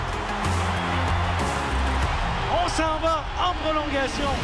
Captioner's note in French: cris des spectateurs